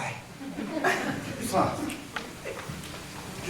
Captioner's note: laughter